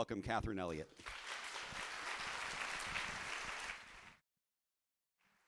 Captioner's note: audience applauding